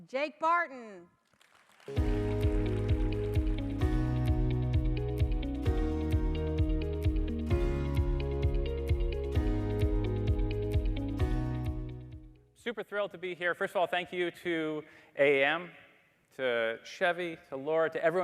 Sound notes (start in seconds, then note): 1.2 audience applauding; 1.9 upbeat music